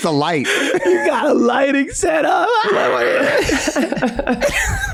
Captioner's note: cackles